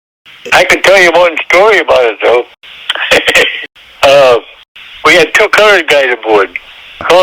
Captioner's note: laughs